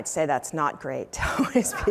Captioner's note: laughter